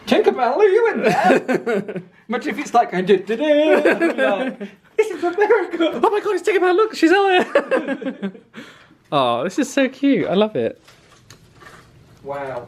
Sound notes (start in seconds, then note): 3.5 laughs; 7.1 laughs